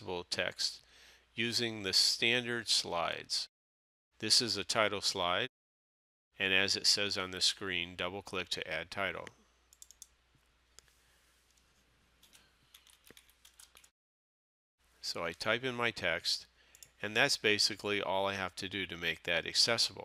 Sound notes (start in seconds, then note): 9.7 sound of typing